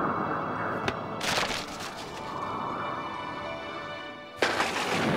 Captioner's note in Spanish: páginas revoloteando